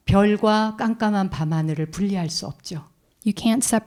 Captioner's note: speaking in Korean